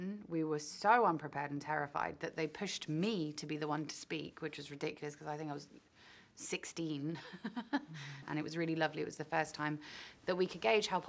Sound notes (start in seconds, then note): 7.2 Kaya laughs